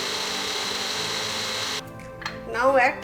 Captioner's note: blender whirring